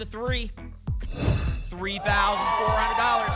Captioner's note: whoosh